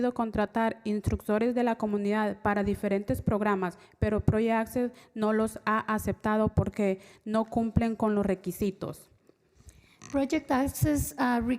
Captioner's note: spanish